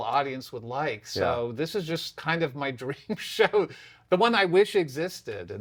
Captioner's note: laughs